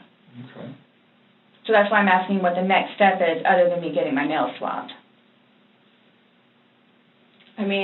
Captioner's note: none